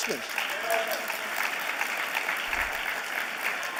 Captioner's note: applause